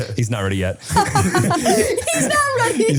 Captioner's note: all laughing